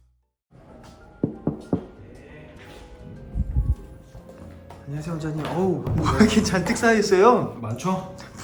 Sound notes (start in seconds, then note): 1.2 knock knock knock